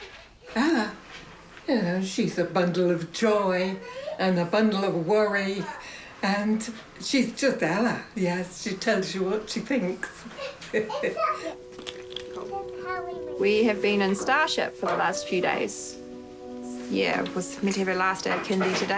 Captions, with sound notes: Ella? You know, she's a bundle of joy and a bundle of worry. And she's just Ella. Yes. She tells you what she thinks. (CHUCKLES) We have been in Starship for the last few days. Yeah, was meant to have her last day of kindy today,